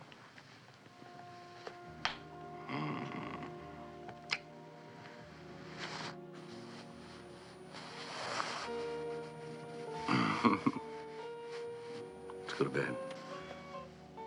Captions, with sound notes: [moaning] [chuckling] Let's go to bed.